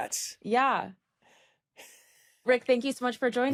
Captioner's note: laughs